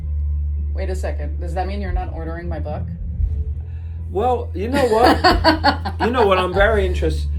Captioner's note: laughs